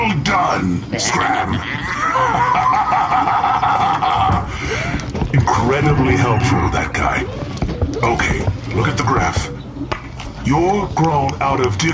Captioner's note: laughter